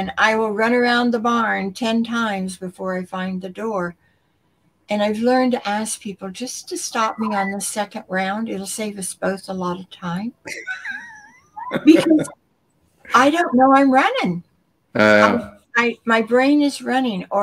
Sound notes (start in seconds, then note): 10.5 laughter